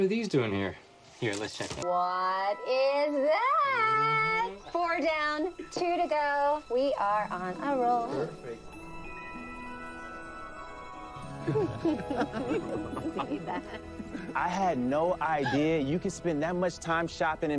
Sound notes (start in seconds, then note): 11.4 laughing; 11.8 indistinct chatter